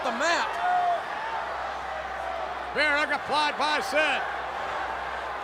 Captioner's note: applause